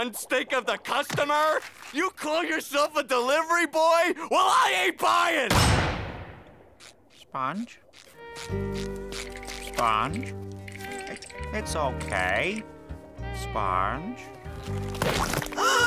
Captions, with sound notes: of the customer?! You call yourself a delivery boy?! Well, I ain't buying! [slamming] Sponge? Sponge? It- It's okay. Sponge?